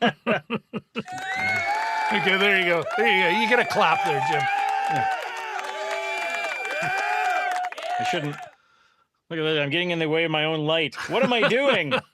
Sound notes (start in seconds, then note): 1.0 applause